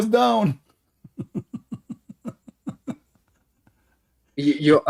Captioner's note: Ketawa